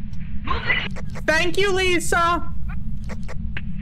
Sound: over Radio

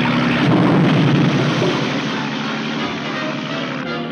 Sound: grenade explodes

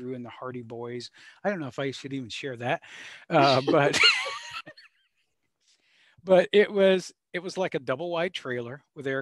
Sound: laughs

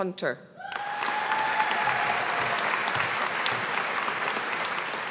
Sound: audience applauding

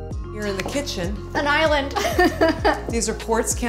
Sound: laughs

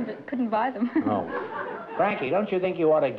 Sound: laughter

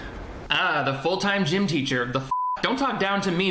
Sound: beep

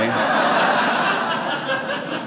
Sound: audience laughing

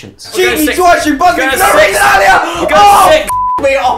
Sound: screams

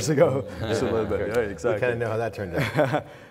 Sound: anxious laughing

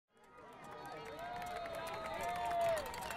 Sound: cheering

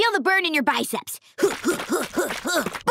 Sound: groaning

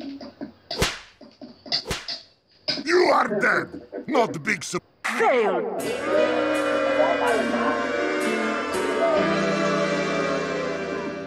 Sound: whack

